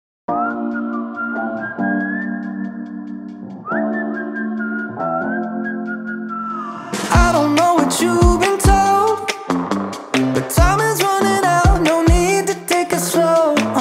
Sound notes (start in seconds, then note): 0.3 whistling